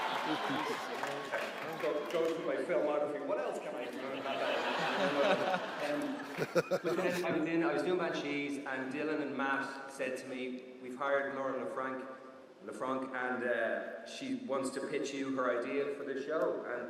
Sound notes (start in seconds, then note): 3.9 audience laughs